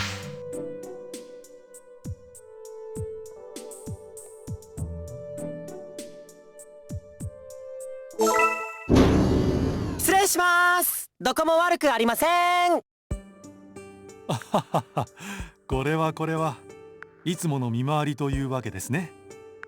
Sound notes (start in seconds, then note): 14.3 laugh